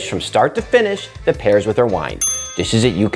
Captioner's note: bell dings